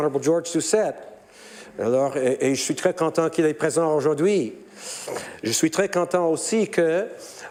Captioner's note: speaking French